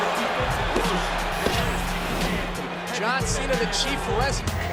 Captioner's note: applause